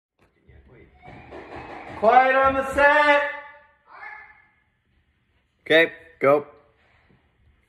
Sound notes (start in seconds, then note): 0.7 metal clanking